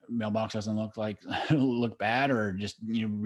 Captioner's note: chuckle